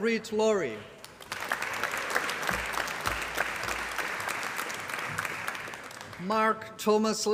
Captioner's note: applause